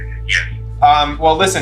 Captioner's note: on phone